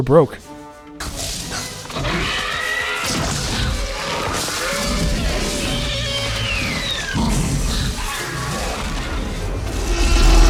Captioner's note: raptor attack sounds from Jurassic Park